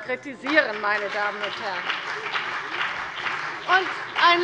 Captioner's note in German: Beifall bei der CDU und dem BÜNDNIS 90/DIE GRÜNEN